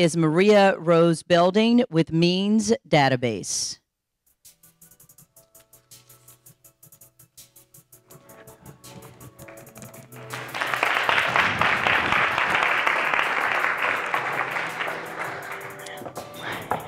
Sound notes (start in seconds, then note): 7.0 soft instrumental music; 10.7 audience applauding